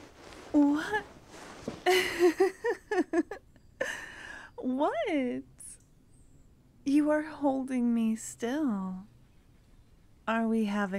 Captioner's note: giggle